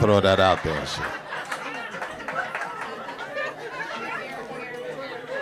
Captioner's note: audience laughing